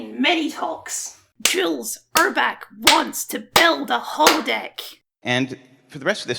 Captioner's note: clap